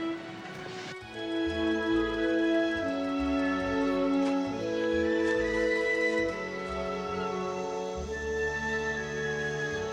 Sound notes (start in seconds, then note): 0.1 gentle music; 6.6 birds chirping